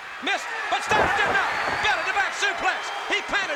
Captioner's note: crowd cheering